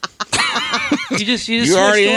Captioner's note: laughing